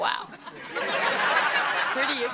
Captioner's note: audience laughing